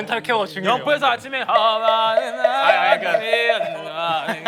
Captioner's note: chanting